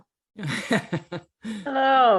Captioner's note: laughs